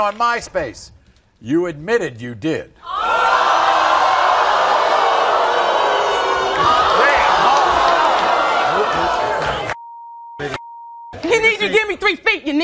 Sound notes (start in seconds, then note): 2.6 audience gasping; 6.1 chattering